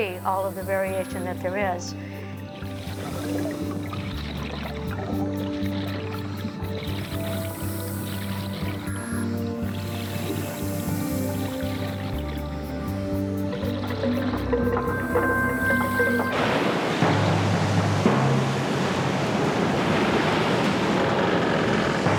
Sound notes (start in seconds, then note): 3.0 water bubbling; 7.2 air rushing; 17.0 ice rumbling; 18.3 dramatic drums beating